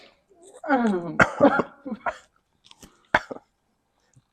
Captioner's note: coughing